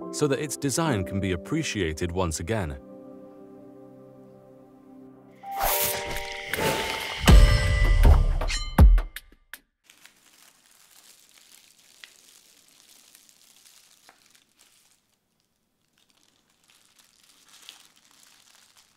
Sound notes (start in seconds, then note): 5.6 transition whooshing; 7.4 transition dings; 8.2 transition whooshing; 11.3 plastic rustling